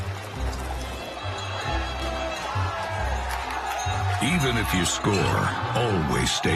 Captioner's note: sports bar ambience